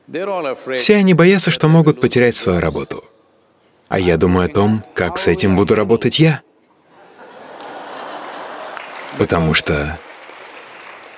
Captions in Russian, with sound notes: Все они боятся, что могут потерять свою работу. А я думаю о том, как с этим буду работать я. (Смех/аплодисменты) потому что